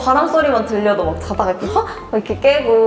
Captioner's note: gasp